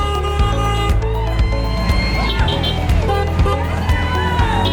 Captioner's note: crowd cheering